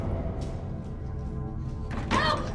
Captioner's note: screaming